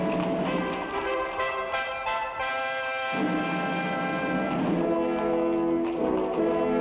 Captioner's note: thrilling music; horse hooves patter